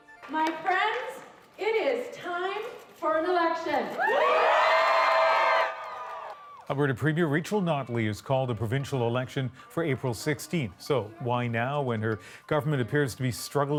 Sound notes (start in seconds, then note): 7.3 cheers and Applause